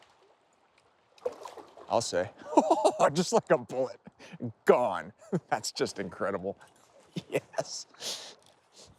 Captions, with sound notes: I'll say. (chuckles) Just like a bullet, gone. That's just incredible, yes.